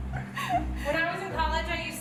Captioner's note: laughing